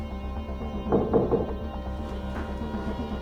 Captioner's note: knocking on door